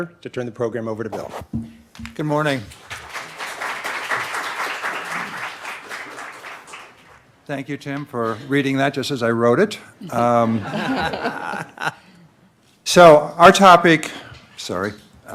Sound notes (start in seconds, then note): 2.6 audience applauding; 10.6 laughing